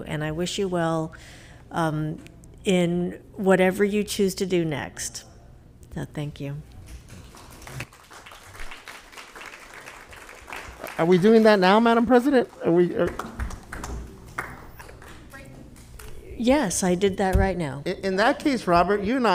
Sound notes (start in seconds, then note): 7.1 board applauding